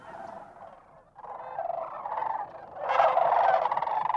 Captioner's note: birds squawking